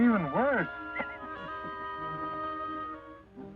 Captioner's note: all laughing